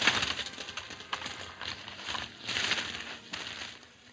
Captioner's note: grass rustling